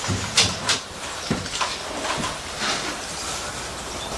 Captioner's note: birds chirping